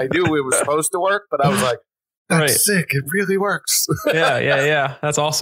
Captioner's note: laughs